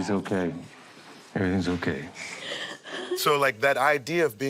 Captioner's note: crying